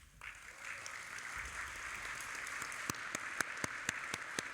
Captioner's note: audience applauding